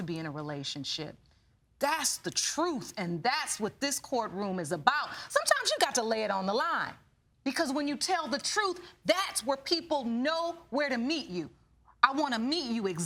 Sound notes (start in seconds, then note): none